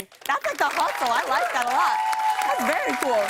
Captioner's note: cheers and applause